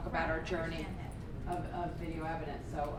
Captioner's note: voiceover